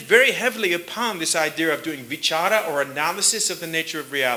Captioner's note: sanskrit